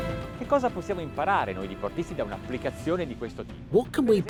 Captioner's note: music swells; speaking foreign language